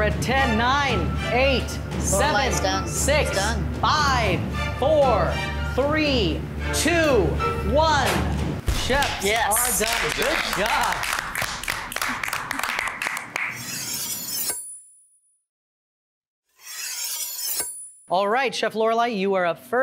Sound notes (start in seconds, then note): 11.4 judges applauding; 13.5 knives slicing